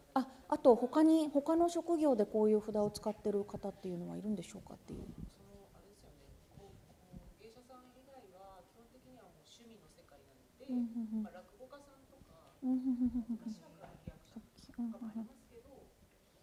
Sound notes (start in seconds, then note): 0.1 speaking japanese